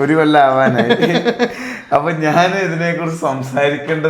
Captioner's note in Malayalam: പൊട്ടിച്ചിരി